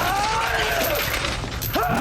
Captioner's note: Eldon screams throughout